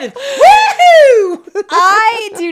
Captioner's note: both laughing